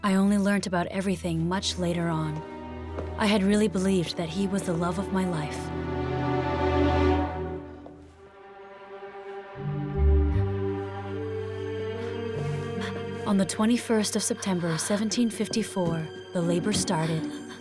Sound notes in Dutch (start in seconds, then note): 7.9 spannende muziek; 11.4 Catherine hijgt